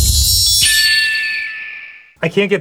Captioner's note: distant cries of an eagle